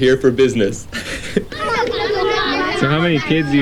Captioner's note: laughing